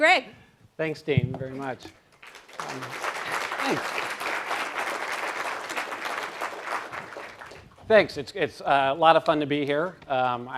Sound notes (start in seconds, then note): 2.1 applause